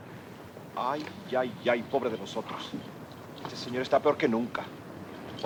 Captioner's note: soldier speaks Spanish